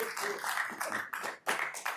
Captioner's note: applause